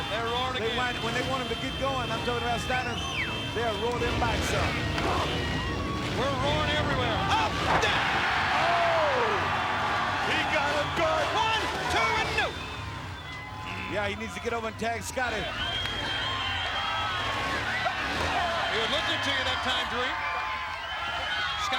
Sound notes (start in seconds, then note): 8.0 crowd cheering